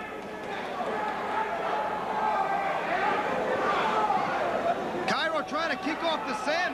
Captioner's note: crowd chatter